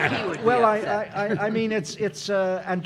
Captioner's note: audience laughing; mumbles